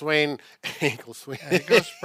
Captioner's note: laughs